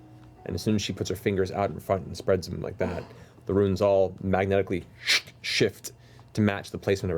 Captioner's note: scraping